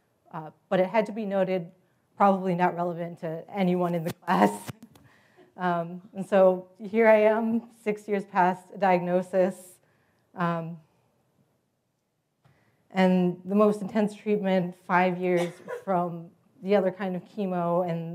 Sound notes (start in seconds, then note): 4.6 laugh